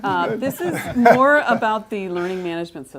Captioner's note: laugh